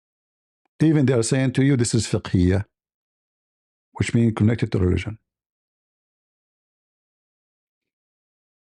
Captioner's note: Arabic